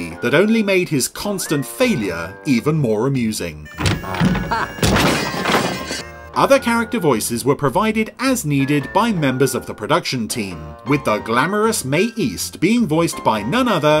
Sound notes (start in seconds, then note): 3.7 door slams; 5.5 metal clanging